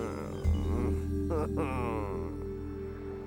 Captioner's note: groaning